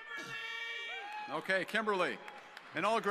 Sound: audience yelling

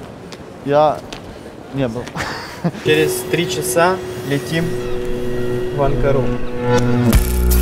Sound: laughing

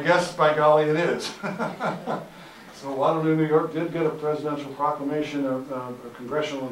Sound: laughter; audience Laughter

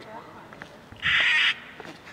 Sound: eagle squawk

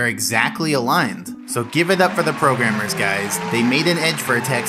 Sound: cheering and applause

